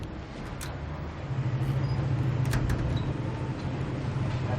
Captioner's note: street noises